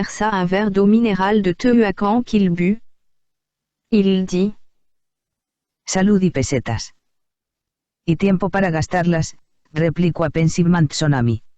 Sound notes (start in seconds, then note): 6.1 computer speaking in Spanish